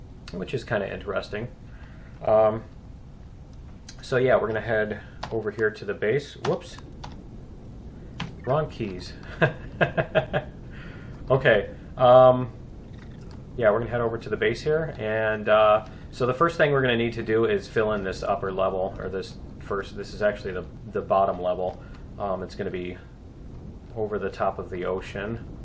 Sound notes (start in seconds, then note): 9.1 laughs; 12.8 plant monster chirping